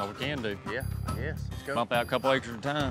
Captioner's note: none